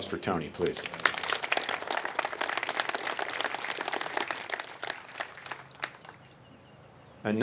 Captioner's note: applause